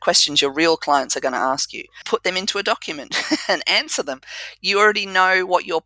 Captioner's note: laugh